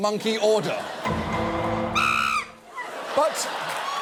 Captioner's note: audience laughing; audience applauding; monkey screeches